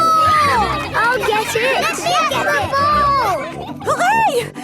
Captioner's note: children cheering; children calling for the ball